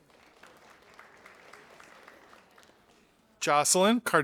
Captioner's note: audience applauding